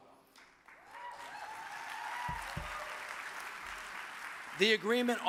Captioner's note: audience cheers and applauds